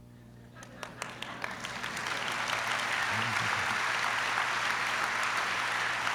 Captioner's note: applause